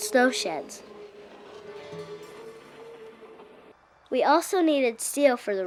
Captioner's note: air whooshing